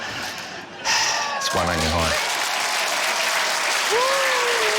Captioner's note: sighs deeply; cheering, applause, laughter